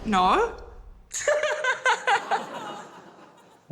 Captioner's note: laughs